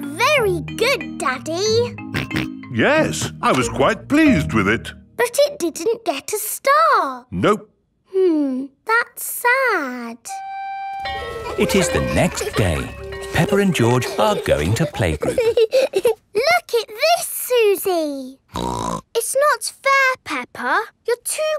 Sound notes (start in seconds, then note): 2.2 snorts; 18.5 snorts